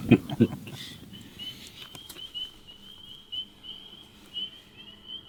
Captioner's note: frogs peeping